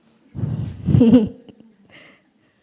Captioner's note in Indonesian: Suara tertawa